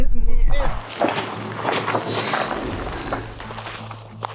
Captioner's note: gravel crunching; dramatic music